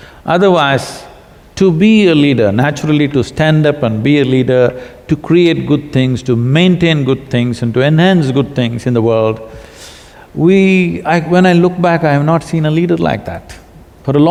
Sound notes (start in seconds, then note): none